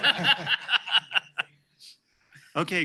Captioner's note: laughter